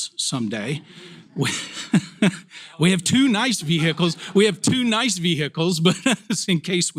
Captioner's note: laugh